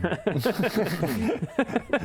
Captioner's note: reckless laugh